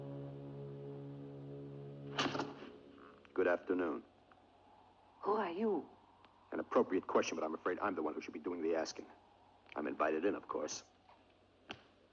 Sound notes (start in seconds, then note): 0.0 ominous music; 2.2 feet stumbling